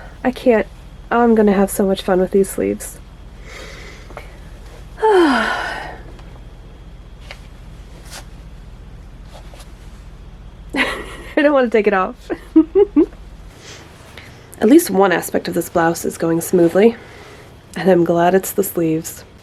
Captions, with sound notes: I can't -- I'm going to have so much fun with these sleeves! *happy sigh* *laughs* I don't want to take it off! At least one aspect of this blouse is going smoothly! And I'm glad it's the sleeves.